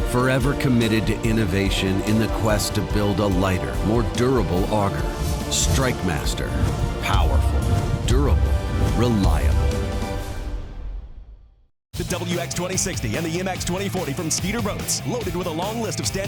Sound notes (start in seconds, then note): 12.3 voiceover